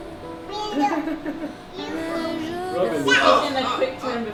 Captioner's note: all chattering